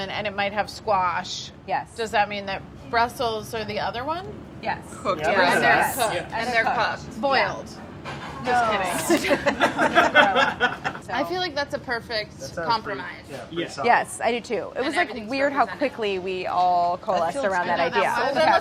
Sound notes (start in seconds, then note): 8.9 group laughing